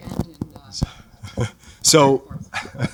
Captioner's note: laughter